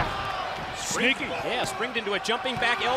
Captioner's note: crowd cheering